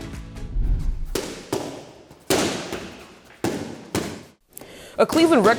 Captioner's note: boxing Sounds